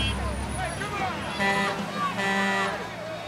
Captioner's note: truck horn honking